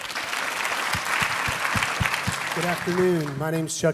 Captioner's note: audience clapping